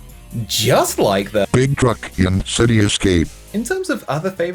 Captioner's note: robotic Voice